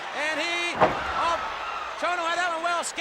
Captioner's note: Muta thuds